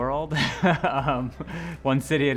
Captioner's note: laughing